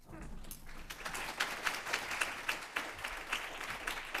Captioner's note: applause